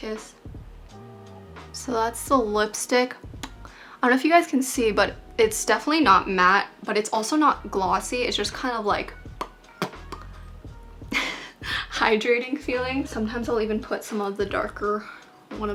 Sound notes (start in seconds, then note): 10.0 lips smacking; 10.6 laughs